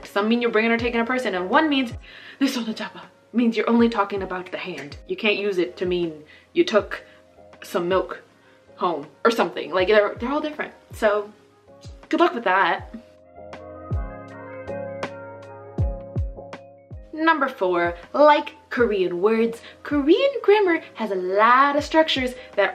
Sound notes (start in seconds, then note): 2.4 speaking Korean